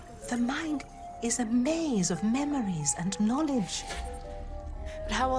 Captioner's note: none